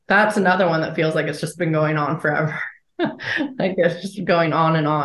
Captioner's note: chuckles